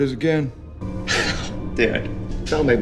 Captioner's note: scoffs